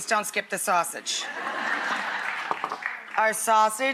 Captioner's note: audience laughs